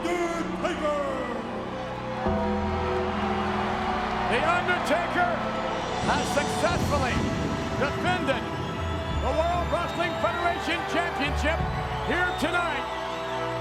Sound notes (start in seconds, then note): 1.6 crowd cheering; 1.6 dramatic music continues; 13.4 dramatic music continues